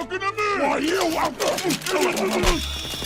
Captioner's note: sounds of toy violence